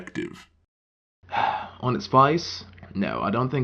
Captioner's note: sighs